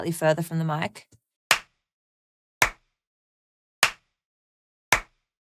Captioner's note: clapping